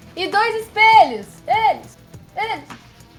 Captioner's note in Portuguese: Ecoando